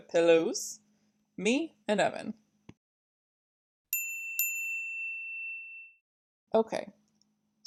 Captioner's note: ding... ding